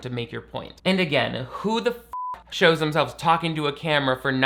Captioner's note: beep